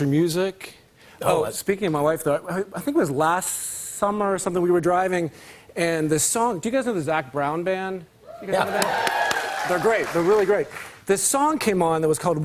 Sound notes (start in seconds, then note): 8.3 cheers and applause